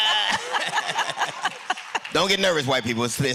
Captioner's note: laughter